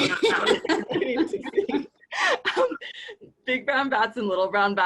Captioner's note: chuckling